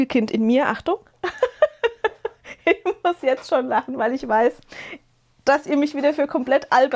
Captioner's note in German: gelächter